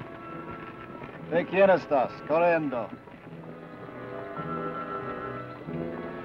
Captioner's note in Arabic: بن يتحدث لغة أجنبية